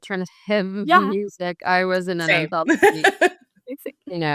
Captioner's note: laughs